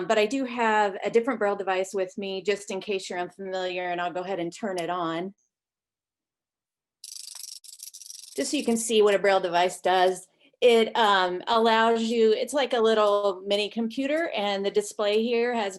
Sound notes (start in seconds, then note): 7.0 device whirring